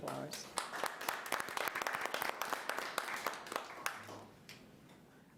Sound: audience applauds

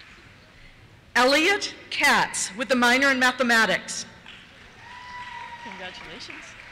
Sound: cheers

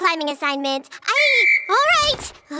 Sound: whistle blowing

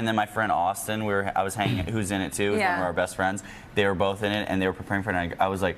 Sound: laughter

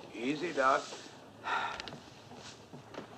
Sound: sighs

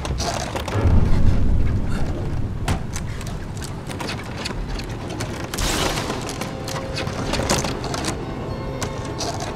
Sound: door ratling being pushed on and hit, doorknob turning

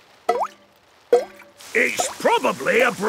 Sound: water dripping

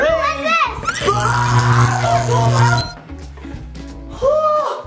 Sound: electric buzzing; screams

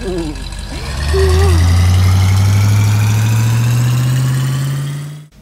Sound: engine speedup

